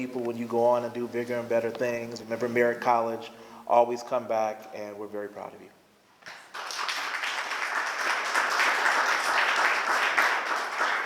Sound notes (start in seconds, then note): 6.2 applause